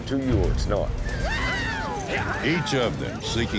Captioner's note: cowboys shouting